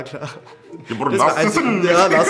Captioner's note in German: Er spricht türkisch